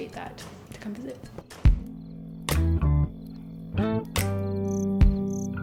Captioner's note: insects chirping